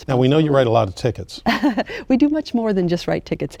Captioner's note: laughing